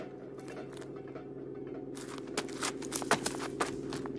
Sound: airplane roars

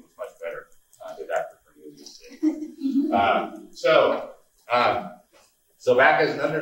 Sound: laughing

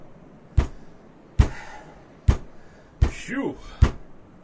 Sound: grunting

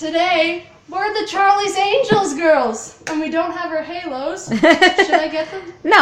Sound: laughs

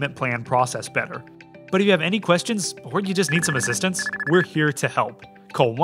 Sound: phone ringing

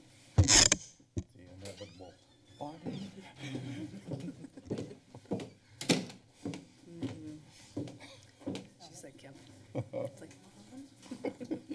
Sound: background conversations; footsteps; laughter

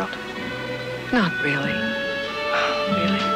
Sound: sighs

